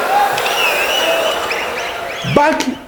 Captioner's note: wild applause and cheering for 22 seconds